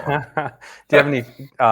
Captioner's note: laughing